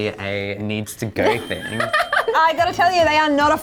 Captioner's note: laughing